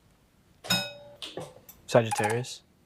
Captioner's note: bell rings